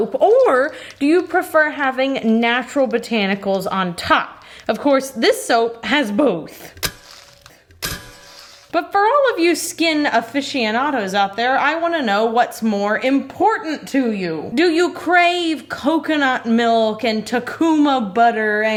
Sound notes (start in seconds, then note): 6.7 slicer pings; 6.7 salt crunches